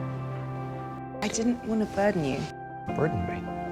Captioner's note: voiceover